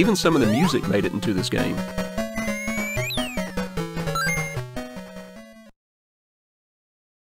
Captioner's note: game Sounds